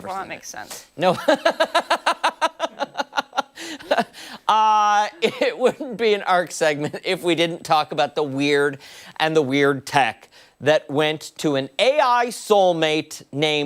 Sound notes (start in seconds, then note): 5.2 laughter